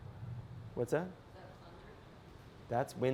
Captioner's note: voiceover